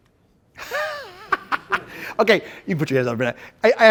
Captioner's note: laughs